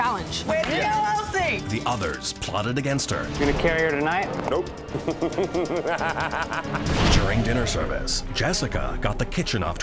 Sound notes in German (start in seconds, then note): 4.9 lacht